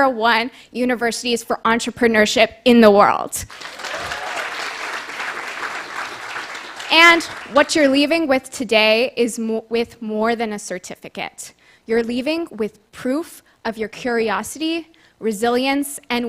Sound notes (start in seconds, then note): 3.4 applause